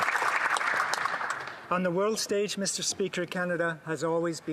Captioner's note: some applause